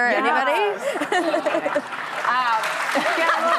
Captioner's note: audience laughs